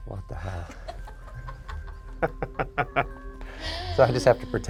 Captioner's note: group laughs